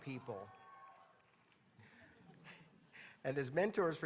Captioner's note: audience cheering